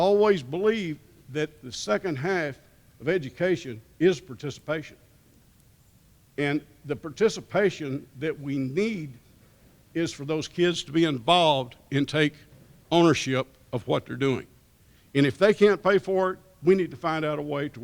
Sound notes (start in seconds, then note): none